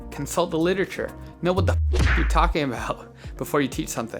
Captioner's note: punch sound